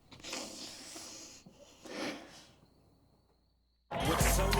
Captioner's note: breathes shakily